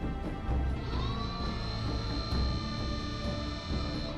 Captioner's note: shuttle doors opening